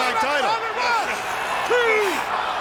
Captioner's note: laugh